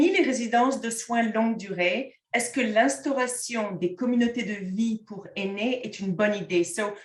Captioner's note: content in French